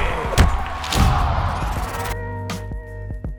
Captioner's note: camera shutter sounds; punches thudding; camera shutter; film rewind sounds; chill lo-fi music